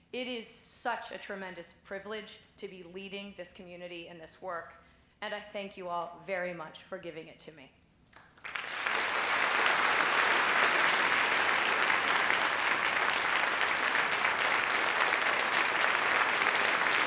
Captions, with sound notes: It is such a tremendous privilege to be leading this community and this work, and I think you all very much for giving it to me. (applause)